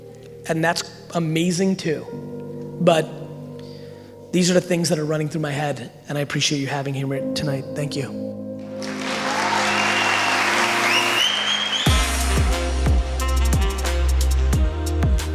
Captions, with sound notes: And that's amazing too. But, these are the things that are running through my head and I appreciate you having here tonight. Thank you. (audience applauding and cheering) (inspirational music)